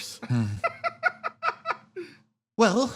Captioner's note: laugh